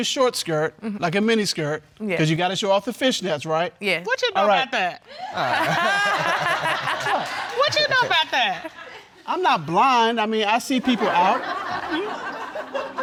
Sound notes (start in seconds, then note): 5.3 all laughing